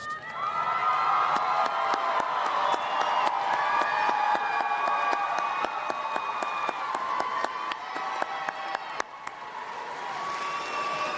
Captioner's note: cheering and Applause